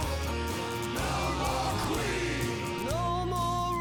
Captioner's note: crowd